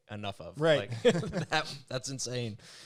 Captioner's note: both laugh